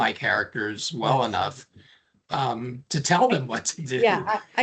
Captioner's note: laughing